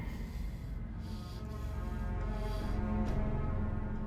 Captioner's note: heavy breathing